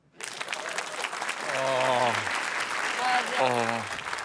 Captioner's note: applause